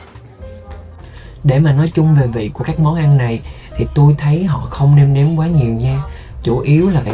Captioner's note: sounds of dining